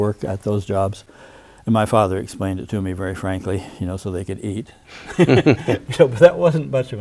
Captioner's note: both chuckle